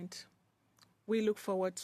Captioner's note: speaking in French